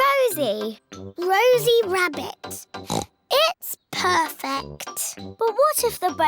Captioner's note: oinks